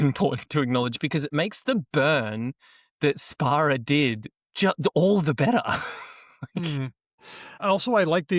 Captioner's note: chuckles